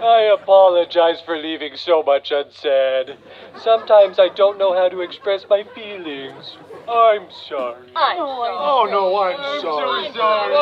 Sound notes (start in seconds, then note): 0.1 baby talk; 8.2 baby talk